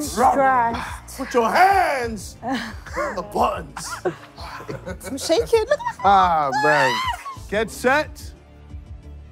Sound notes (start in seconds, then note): 6.5 screaming